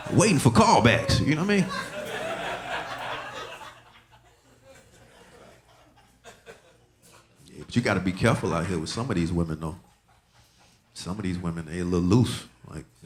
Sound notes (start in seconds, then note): 2.2 audience laughing